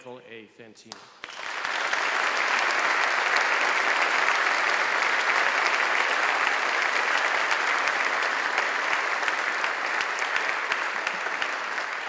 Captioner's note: applause